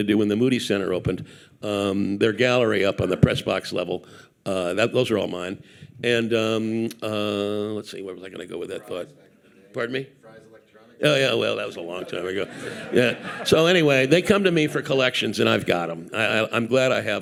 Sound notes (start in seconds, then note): 11.7 audience laughing